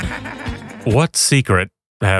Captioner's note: Martin voice giggle